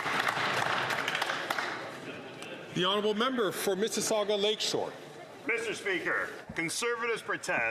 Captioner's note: some Applause